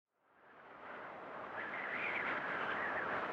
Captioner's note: wind howling